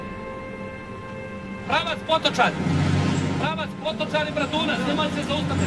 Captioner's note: speaking Serbo-Croatian